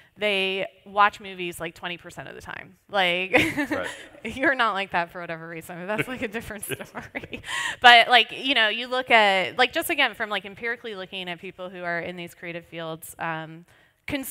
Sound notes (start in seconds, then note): 5.9 laughs